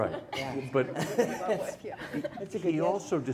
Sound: laughing

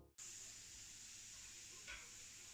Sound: wok sizzling

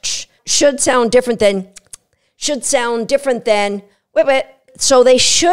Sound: click-click sound

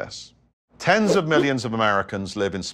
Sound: graphics whooshing

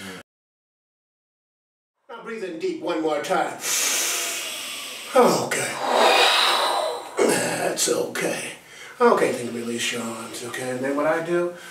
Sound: breath

